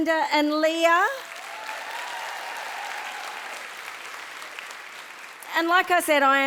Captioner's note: audience cheering and applauding